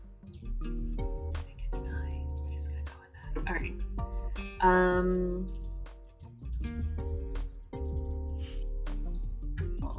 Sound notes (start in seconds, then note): 0.8 whispering